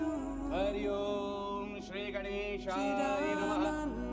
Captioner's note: chanting in foreign language